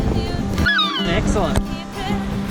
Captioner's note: seagull